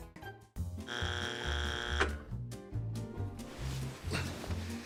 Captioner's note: game show buzzer